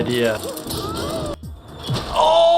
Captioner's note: Disco Bear yelling